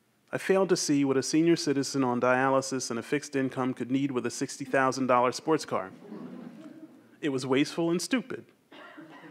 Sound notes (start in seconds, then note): 5.7 audience chuckles